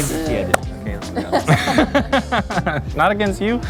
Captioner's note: everyone laughs